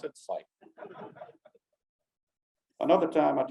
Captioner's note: audience giggling lightly